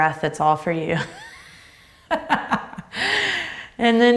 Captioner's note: laughs